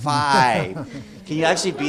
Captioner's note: laughing